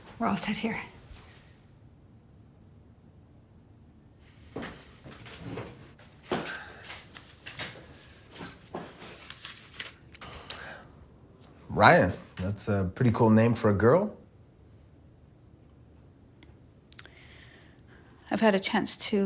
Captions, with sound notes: We're all set here. [footsteps] [chair creaks] [man sighs] Ryann. That's a pretty cool name for a girl. I've had a chance